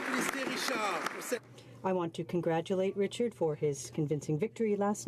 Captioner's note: some Applause